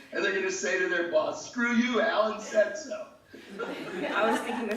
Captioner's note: laughing